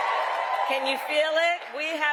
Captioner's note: cheering